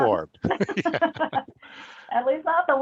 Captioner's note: both laughing